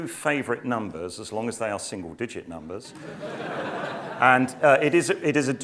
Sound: laugh

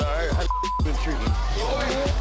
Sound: beep

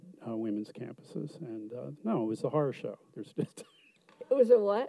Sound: laughs

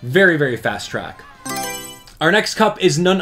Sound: Mario Selection Sound

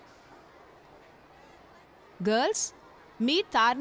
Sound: none

